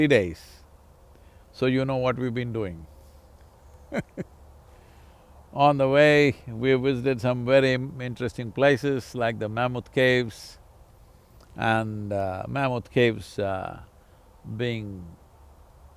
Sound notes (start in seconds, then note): 3.8 laughs